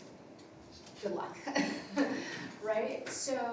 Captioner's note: everybody laughing